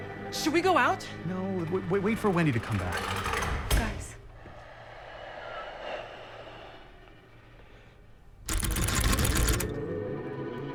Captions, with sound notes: -Should we go out? -No, wait-- Wait for Wendy to come back. -[rattling] -Guys. [loud breathing]